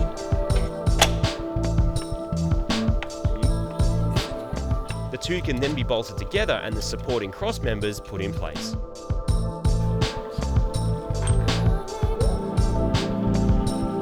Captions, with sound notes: (clicks) Beautiful. "The two can then be bolted together and the supporting crossmembers put in place."